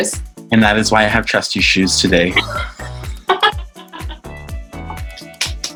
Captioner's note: laughs